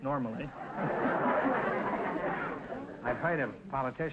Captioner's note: audience laughter